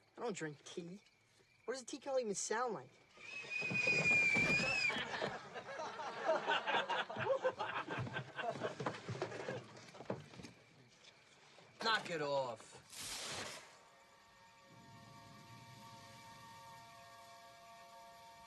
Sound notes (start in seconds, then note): 3.0 whistles; 4.5 soldiers laughing